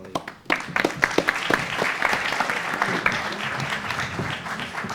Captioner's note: audience applauds